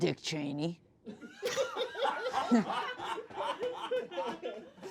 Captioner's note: everyone laughs